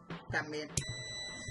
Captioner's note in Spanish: sonido: piiiiii